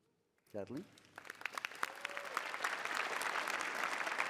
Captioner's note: cheering